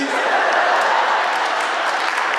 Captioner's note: audience laughing; audience applauding